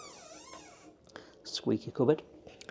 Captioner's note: door squeaks